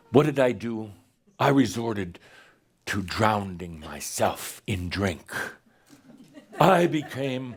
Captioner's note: some giggles